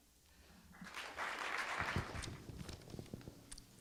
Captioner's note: applause